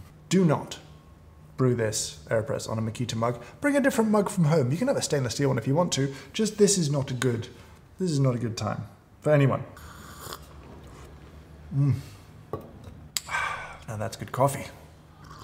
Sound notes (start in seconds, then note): 9.8 sips coffee